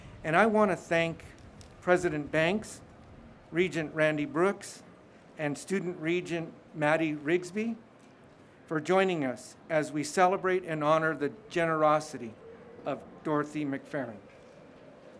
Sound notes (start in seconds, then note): none